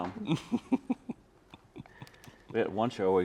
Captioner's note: chuckling